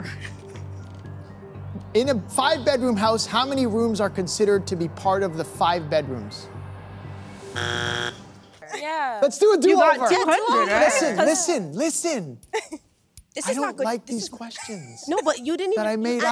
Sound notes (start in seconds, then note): 7.5 buzzer